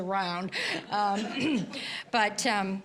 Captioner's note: audience laughing